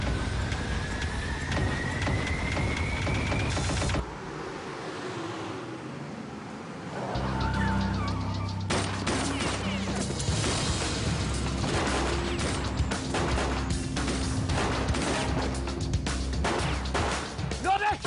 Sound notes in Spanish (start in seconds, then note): 4.8 Ruido del motor; 8.7 Disparos; 13.4 Disparos